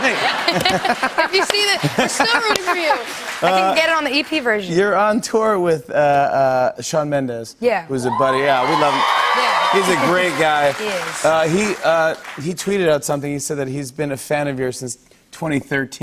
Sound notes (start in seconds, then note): 0.0 laughter; 8.1 cheers and applause